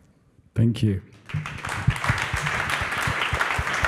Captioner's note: applause